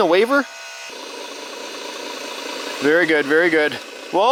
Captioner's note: machines whirring